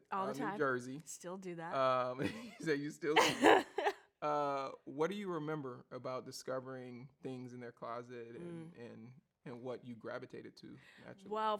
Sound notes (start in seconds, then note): 3.1 laughs